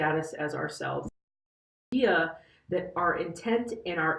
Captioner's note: audio out